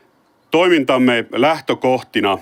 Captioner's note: none